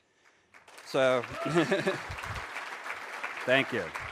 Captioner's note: audience applauds; laughs